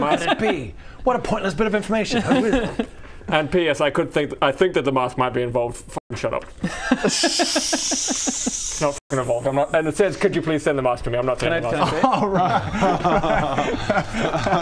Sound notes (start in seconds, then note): 6.6 giggles; 13.4 unfooled laughs